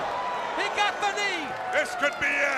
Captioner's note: crowd cheering